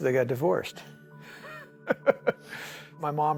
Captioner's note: chuckling